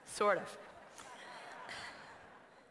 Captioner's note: laughter